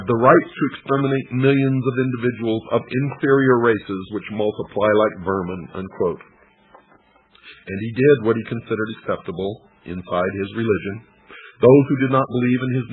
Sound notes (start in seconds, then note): none